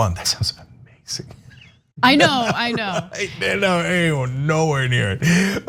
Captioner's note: laugh